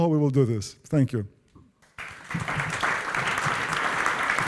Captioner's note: applause